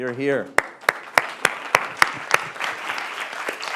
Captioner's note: applause